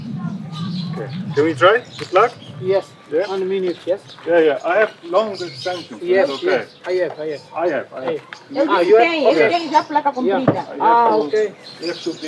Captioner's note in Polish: rozmowa w j. angielskim